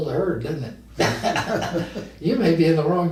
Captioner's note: both men laugh